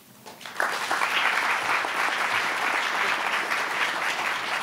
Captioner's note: audience applauding